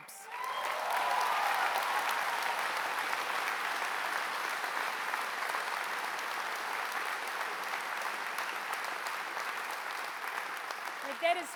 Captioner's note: applause